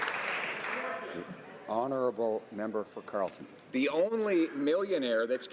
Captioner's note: some Applause